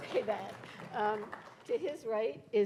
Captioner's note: audience applauding